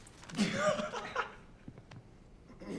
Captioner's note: laughing